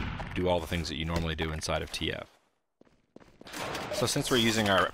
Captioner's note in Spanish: Sonido del juego